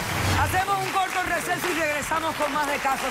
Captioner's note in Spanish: Aplausos